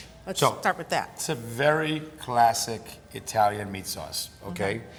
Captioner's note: none